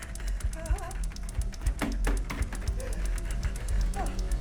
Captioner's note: Sue muttering; Sue whimpering; slaps thudding on door